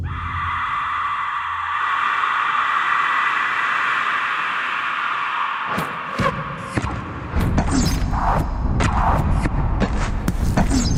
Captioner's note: soundbite of people screaming